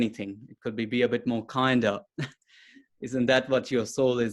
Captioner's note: chuckles